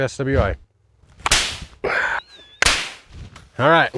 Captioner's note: gloves snapping